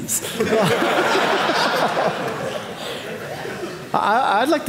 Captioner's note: audience laughing